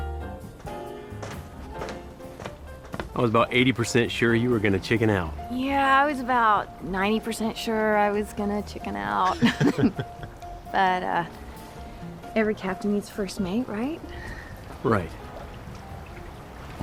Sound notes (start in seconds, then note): 9.2 chuckling